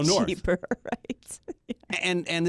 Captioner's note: laughs